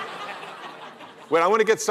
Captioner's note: laughter